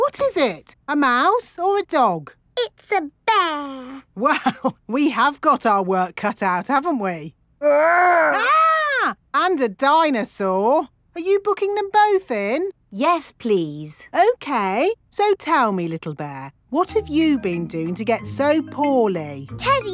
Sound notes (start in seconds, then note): 4.4 chuckling; 8.0 mock screaming